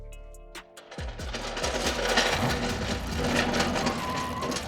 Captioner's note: mechanical sound